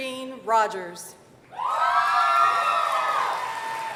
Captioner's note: applause